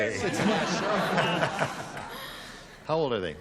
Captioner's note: laughter